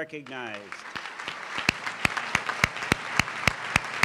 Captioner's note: applause